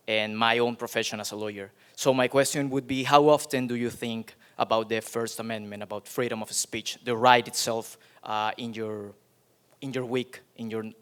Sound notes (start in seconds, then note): none